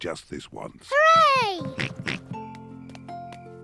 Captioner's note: oinks